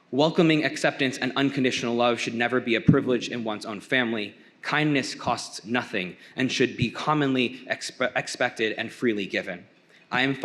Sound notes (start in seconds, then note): none